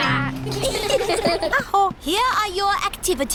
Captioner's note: all giggle